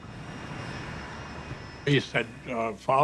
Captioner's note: turbines whining